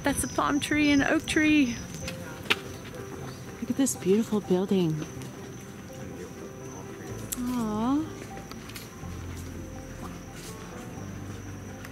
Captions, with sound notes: but that's a palm tree and oak tree. Look at this beautiful building. (wistful sighing) (gentle piano music)